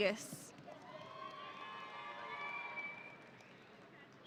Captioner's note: audience cheering